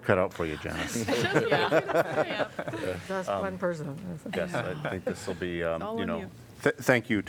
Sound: laughter

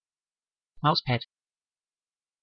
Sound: fast Pronunciation

